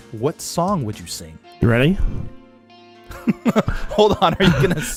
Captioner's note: laughs